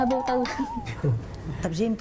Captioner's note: nervous laughs